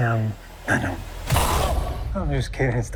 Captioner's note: Scary Jared Leto noises